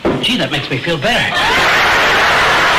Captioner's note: audience laughter; gunshot